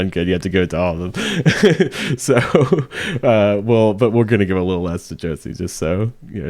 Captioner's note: laughing